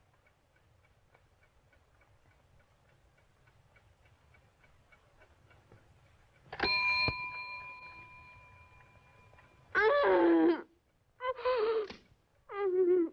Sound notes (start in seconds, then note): 6.6 bell dings; 9.7 moaning